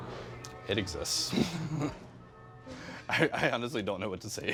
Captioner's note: laughs